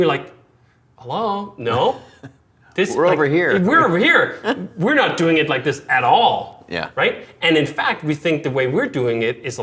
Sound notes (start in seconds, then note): 2.8 chuckling